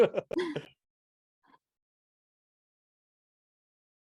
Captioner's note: chuckling